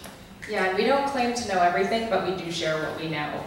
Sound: voiceover

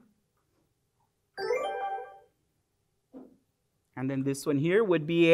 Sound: computerised sound

